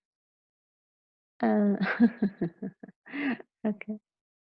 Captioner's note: client laughs